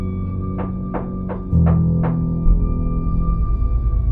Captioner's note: louder knocking on door